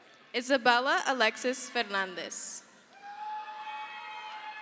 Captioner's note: crowd cheers